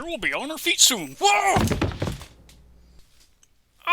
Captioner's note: body thudding on floor